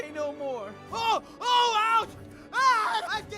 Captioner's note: screaming